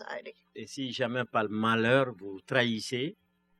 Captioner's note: speaking french